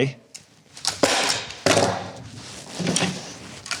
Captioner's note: stapling sound